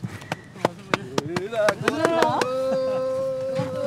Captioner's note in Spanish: Aplausos